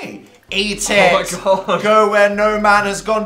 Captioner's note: laughing